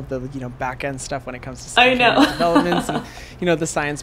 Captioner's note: laughs